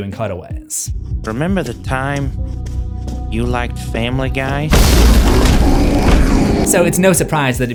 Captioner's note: monster roars